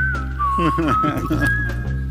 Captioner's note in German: Lachen